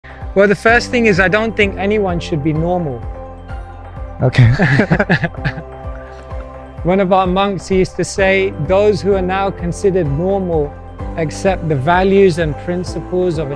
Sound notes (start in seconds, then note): 4.4 laughs